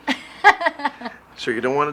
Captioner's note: Marie laughs